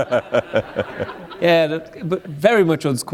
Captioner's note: laughter